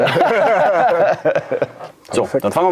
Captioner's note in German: Gelächter